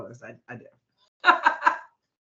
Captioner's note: laughing